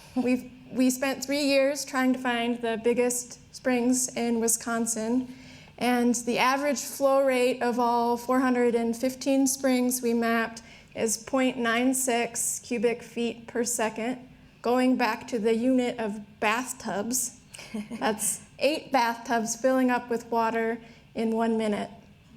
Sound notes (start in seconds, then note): 17.5 laughs